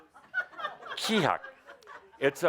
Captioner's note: laughter